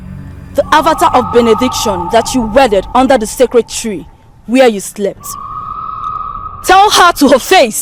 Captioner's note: screaming